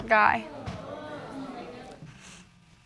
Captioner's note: audience exclaiming